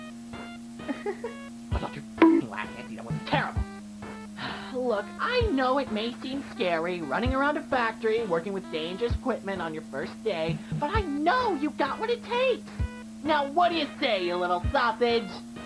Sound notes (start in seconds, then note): 0.8 chuckles; 4.4 sigh